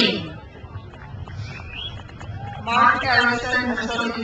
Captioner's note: crowd applauds